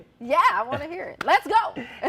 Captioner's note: laughs